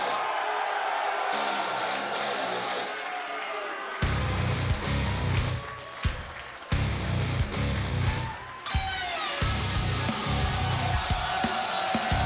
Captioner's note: crowd cheering